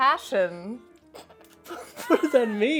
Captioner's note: laughing